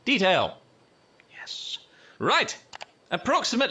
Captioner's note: in a quite voice